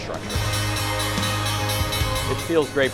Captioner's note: bell ringing